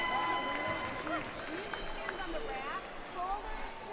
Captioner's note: cheers and applause